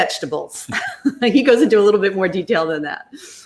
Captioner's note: laughs